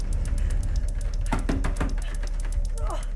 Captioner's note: door handle rattling; pounding on door; Sue grunts